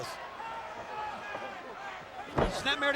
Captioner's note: crowd clamoring